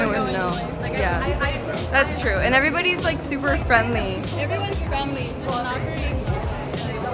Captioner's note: laughs